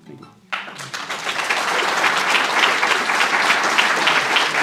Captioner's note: applause